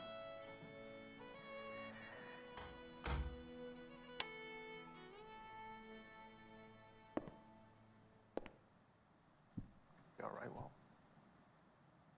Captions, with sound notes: I thought you'd be here. ( DOOR CLOSES )